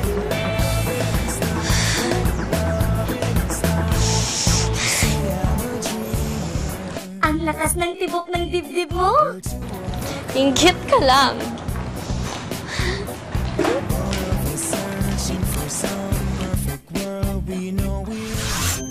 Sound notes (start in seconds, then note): 0.5 exhales; 3.8 sighs